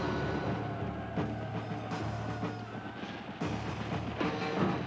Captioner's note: people screaming